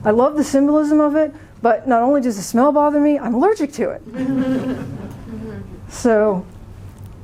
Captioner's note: laughter